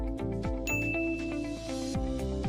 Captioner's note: ding!